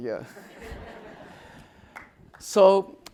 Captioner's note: audience laughing